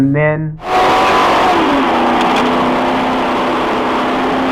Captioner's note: high speed sound